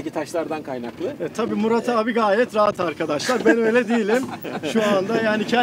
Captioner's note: laughings